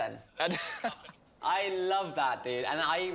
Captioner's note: laughing